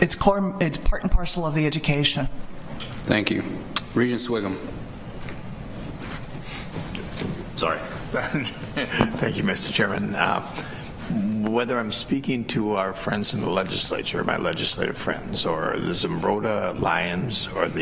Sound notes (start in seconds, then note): 8.2 laughter